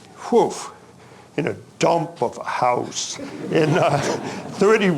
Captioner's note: audience chuckling